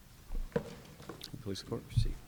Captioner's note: shuffling